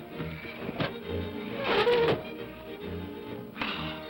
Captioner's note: upbeat whimsical music; window squeals